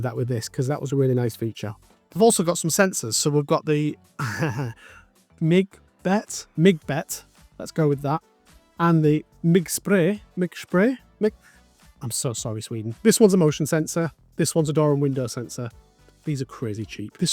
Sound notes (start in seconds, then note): 4.2 ha Ha